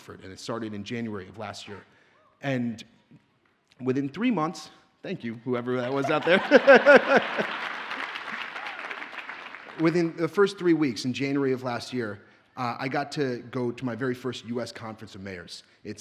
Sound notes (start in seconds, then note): 5.8 audience laughs; 6.0 audience cheers and applauds